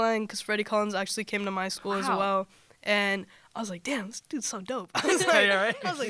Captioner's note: laughter